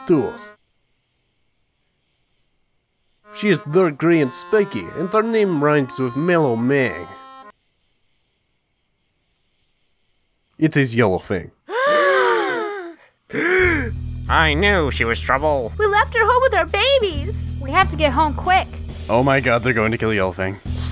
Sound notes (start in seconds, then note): 13.3 big main character gasp